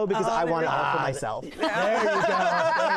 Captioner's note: laughter